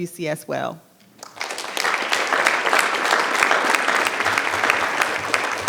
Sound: audience applause

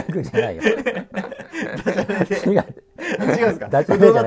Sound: laughing

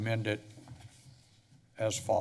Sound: pause

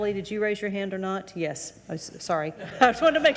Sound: audience laughing

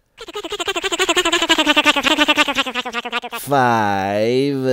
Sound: funny motor sound goes

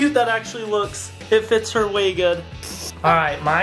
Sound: giggles

